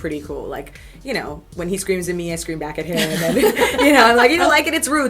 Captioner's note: laughter